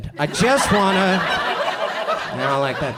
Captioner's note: audience laughs